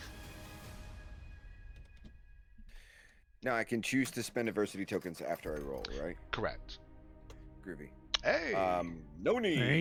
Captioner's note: deep breath